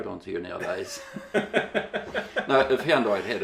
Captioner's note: laughing